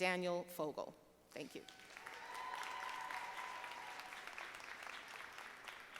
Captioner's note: audience applauding